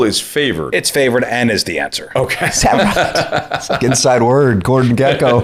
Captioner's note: laughter